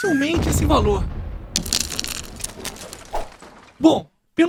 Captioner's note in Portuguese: Barulho de Telhado Quebrado